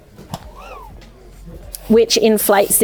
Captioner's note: mat whooshes